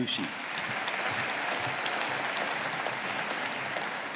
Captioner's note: audience applauding